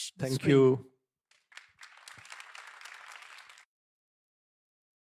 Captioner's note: applause